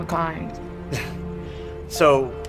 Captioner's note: chuckles